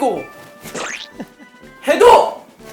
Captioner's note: chuckling